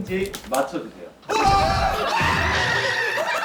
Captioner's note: aaahhh